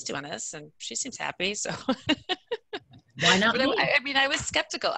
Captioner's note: laughs